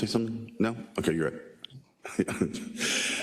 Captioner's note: laugh